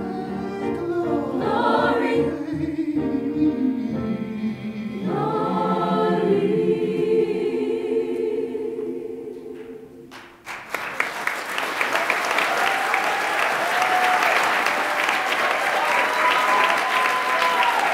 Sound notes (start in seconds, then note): 10.4 audience applauding and cheering